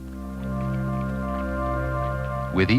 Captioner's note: water sounds